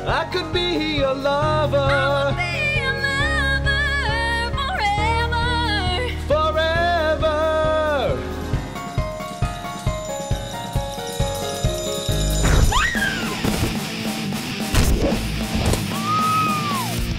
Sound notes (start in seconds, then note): 12.7 screams; 13.9 hard rock music